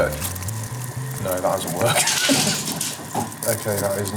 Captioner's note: sniggering